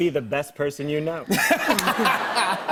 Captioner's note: laughter